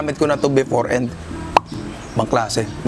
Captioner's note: pop